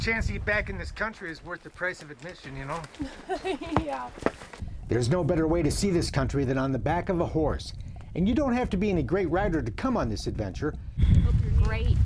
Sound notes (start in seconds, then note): 2.9 laughs